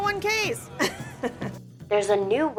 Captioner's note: chuckles